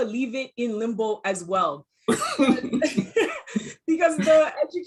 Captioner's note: laughing